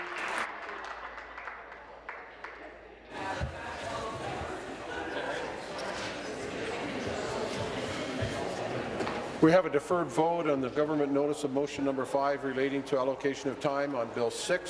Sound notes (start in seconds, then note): 0.0 applause